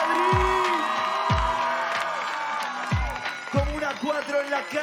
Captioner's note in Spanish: Aplausos y vítores